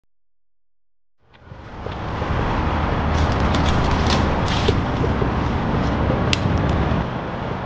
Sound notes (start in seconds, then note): 3.4 footsteps crunching